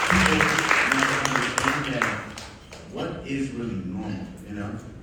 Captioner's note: audience applauding